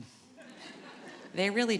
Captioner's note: audience laughing